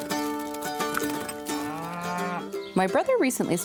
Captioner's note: cows mooing